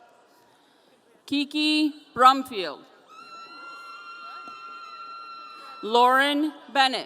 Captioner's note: audience cheering